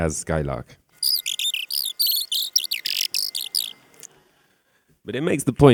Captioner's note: sound that resembles the original birdsong